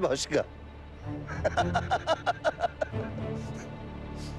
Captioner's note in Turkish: Gülme sesi